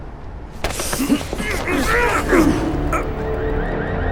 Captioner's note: grunts, screams